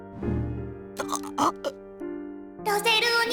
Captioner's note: panicked gasp